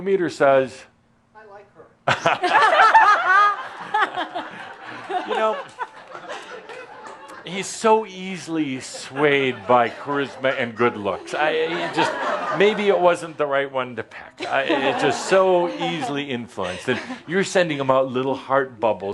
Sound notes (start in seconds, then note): 2.0 laughter; 11.5 more laughter